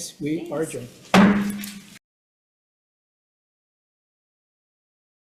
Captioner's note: gavel clanks